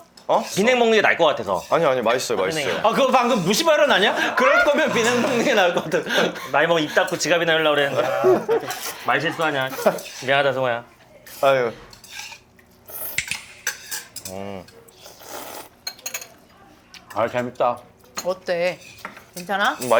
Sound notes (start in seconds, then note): 14.8 slurp